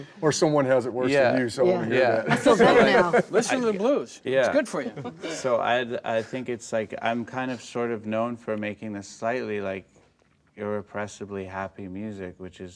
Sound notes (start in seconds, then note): 2.2 laughing